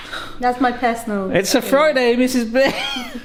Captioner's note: laughs